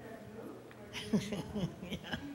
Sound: laughs

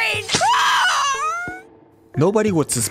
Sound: scream

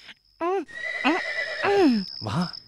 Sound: horse whinnying

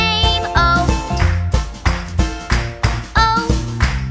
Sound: clap

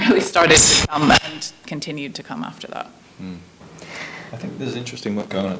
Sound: microphone screeches

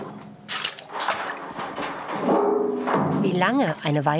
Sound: metal rumble

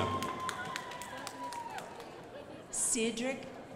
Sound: crowd applauding

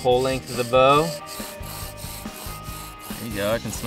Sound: scraping

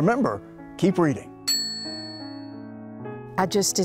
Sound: bell dings

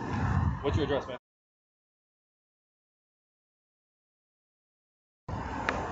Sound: audio muted

